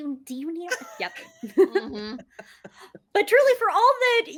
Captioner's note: cast laughing